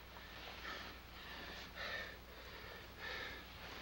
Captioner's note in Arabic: لهث